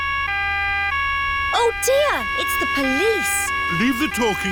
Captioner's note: siren wailing